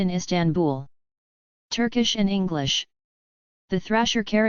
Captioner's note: turkish and English